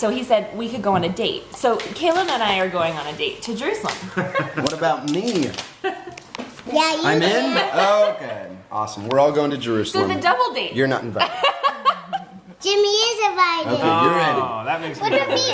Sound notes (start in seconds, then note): 11.3 woman laughs